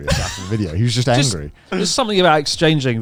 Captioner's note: laughs